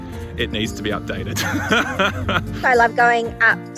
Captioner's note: laughs